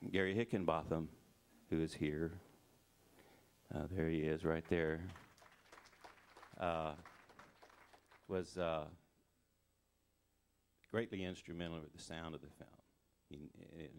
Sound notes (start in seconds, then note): 4.6 crowd applauding